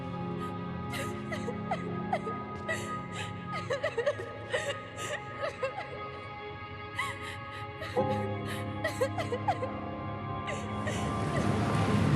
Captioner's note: sobbing